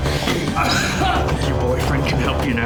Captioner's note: groaning